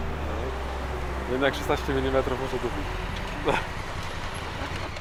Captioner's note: laughs